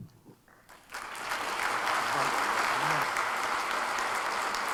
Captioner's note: applause